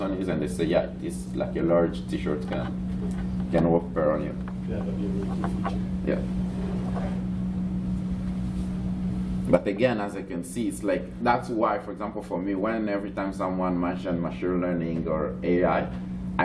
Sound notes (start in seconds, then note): 7.0 background chatter